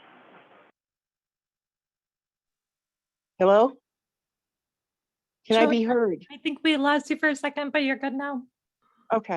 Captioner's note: lost audio